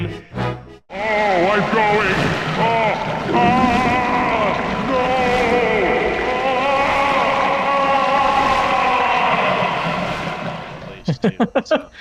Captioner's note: dying shit noises